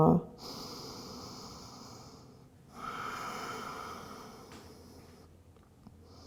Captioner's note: deep breathing